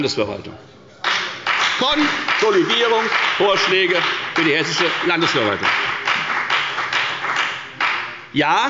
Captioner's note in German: Beifall bei der FDP